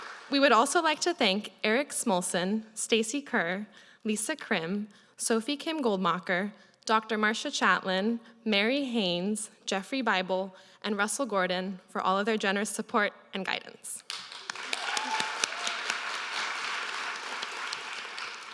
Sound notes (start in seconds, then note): 14.0 applause